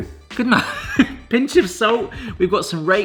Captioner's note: chuckles